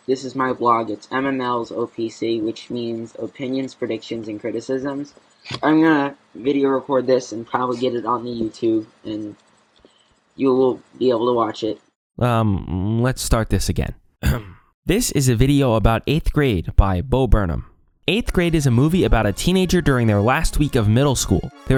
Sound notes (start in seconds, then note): 14.2 clears throat